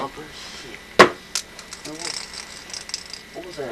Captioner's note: rattle noises